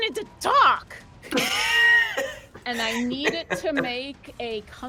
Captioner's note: laughs